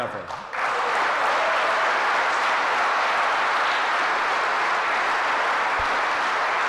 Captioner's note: applause